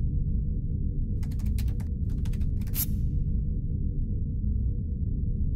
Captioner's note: keyboard clacks